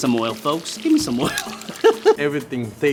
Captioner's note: laughs